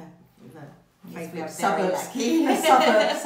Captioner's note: laughs